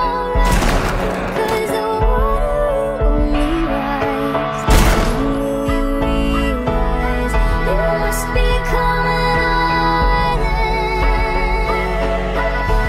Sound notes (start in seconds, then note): 0.4 gunshot; 4.7 gunshot